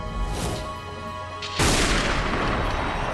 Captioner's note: gunshot